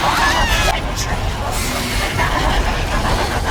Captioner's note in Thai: ร้องไห้